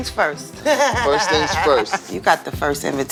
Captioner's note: laughing